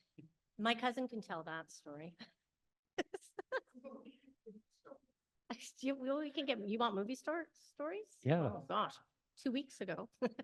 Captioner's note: laughs